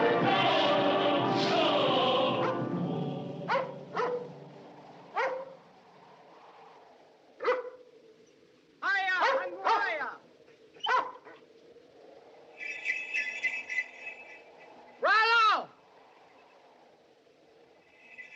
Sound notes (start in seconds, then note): 1.9 dog Barking; 15.0 shouts